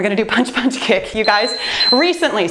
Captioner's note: timer beeps